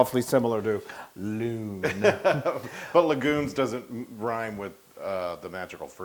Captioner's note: laugh